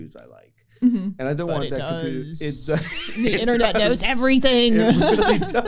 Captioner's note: laughter